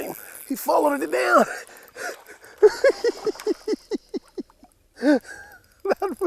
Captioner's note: giggling